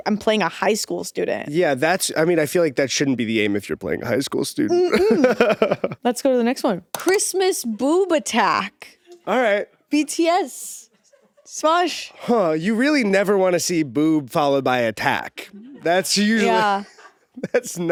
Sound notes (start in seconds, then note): 4.8 laughs